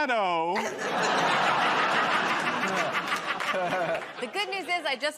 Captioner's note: laughter